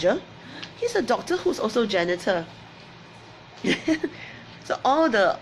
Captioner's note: laughs